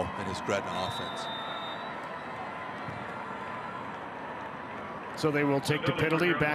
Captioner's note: referee blows whistle